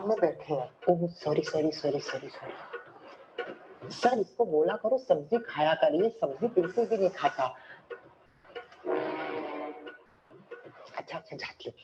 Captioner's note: speaking in Urdu